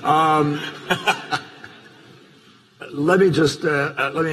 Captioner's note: laughter